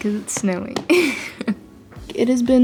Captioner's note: chuckles